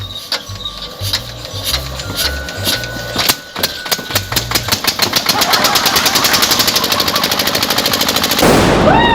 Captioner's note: vroom vroom; blast